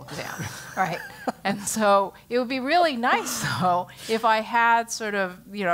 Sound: laugh

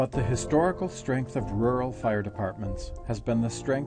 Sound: voiceover

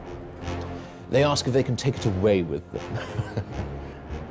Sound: chuckles

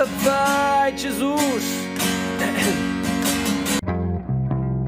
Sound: voice crack

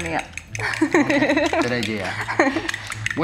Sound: laughs

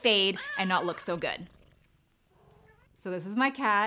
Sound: cat meowing

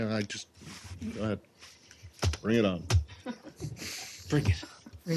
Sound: laughter

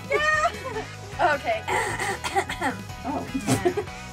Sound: clears throat; laughs

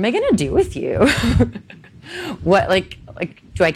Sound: laughing

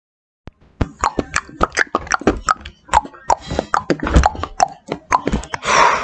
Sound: knocking noises

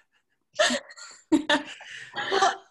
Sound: laughs

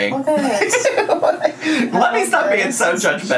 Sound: laughing

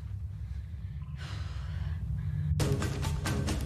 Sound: sighs; energetic music

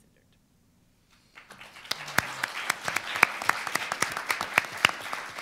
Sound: audience applauding

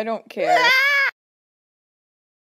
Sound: exclaims

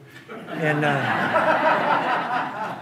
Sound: audience laughing

